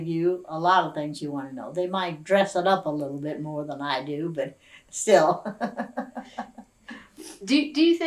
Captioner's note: laughs